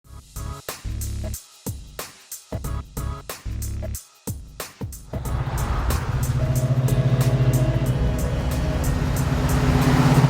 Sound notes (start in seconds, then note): 0.0 easy listening music; 5.1 car engine revs